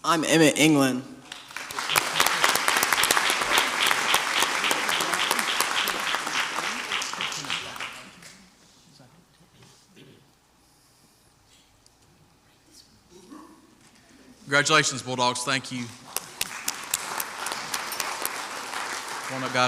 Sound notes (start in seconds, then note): 1.2 crowd applauds; 13.4 man mimics a darg barking; 15.9 crowd applauds